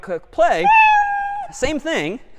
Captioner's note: meow